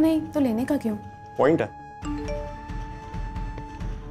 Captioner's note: Message tone